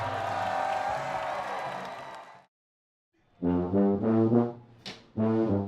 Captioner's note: cheering